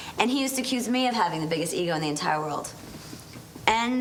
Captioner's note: none